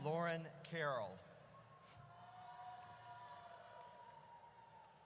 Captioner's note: audience cheers